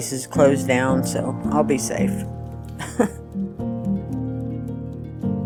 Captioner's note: chuckles